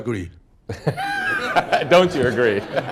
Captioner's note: laughter